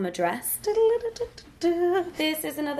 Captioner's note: humming